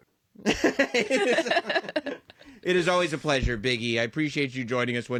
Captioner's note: laugh